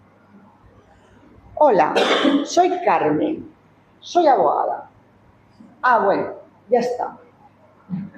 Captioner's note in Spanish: carraspeo